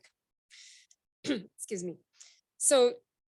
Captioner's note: clears throat